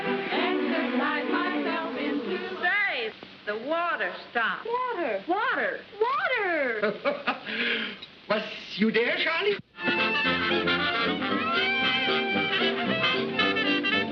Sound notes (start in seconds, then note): 6.7 laughs; 9.6 lively music